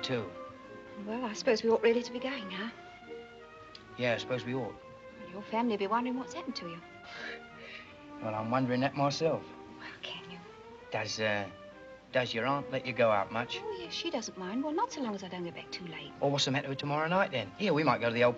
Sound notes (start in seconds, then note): none